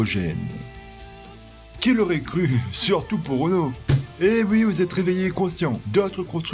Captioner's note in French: clap